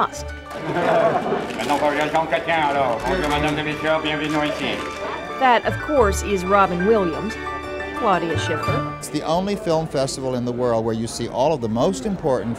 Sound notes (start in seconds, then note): 0.5 laughter; 4.5 imitating Jean Chrétien